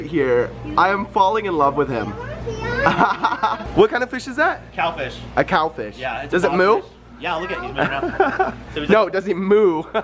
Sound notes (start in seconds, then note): 2.8 laughs